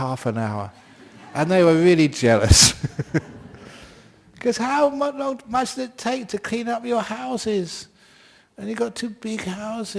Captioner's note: laughter